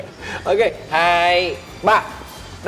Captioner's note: counting